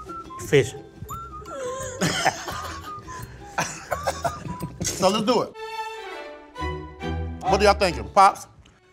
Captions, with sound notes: - Fish. (all laughing) - So let's do it. What are y'all thinking? Pops?